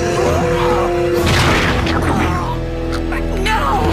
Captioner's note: dying noises